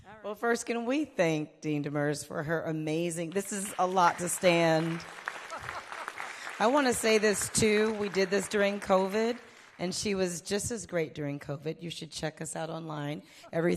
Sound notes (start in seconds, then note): 3.4 audience applauding; 5.7 chuckling